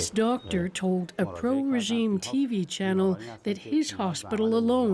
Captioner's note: speaking alternate language